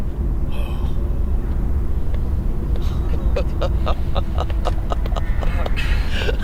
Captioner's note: chuckles; laughs